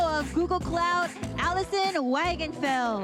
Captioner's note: applause